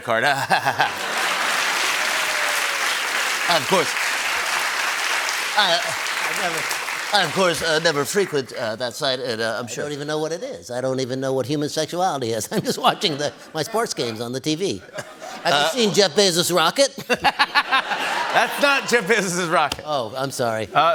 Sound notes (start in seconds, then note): 1.7 applause; 5.0 applause continues; 17.0 laughter